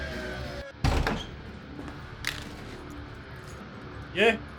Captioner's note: door thuds